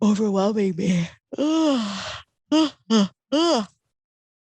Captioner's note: yawning